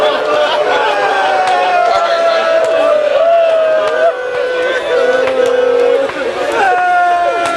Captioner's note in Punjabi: ਤਾੜੀਆਂ